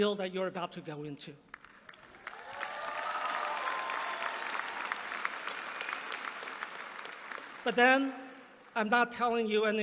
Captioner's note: applause